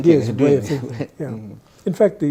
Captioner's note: guy laughs